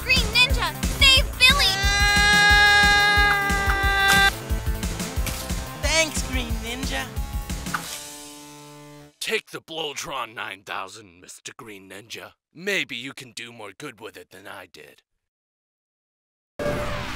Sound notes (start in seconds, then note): 1.5 screaming; 4.1 screaming stops abruptly